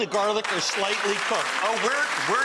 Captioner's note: crowd clapping